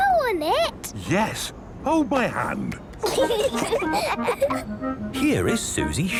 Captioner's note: children giggling